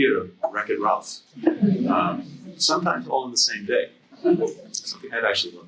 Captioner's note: laughter